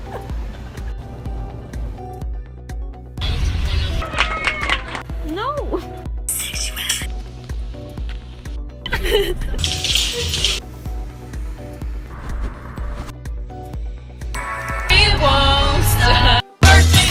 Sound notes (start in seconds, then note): 0.0 laughing; 1.1 upbeat music; 4.0 clapping; 8.8 laughing; 9.5 clattering; 11.6 upbeat music; 16.9 hip hop music